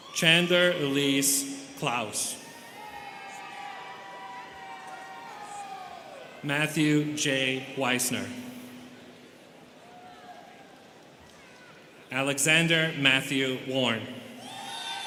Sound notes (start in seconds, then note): 2.4 students cheering